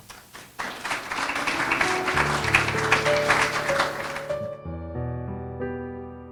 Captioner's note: applause